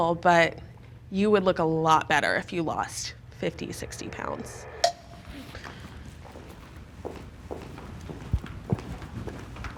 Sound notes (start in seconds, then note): 5.4 footsteps clomping